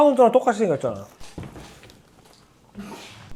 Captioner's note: thud